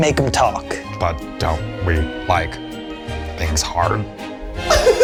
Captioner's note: in puppet voice